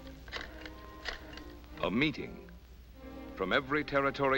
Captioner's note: voiceover